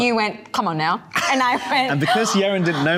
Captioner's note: gasping